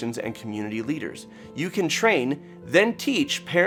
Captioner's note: none